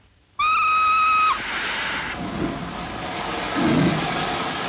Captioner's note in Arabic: صافرة القطار; هسهسة البخار; صوت محرك القطار; صوت هسهسة البخار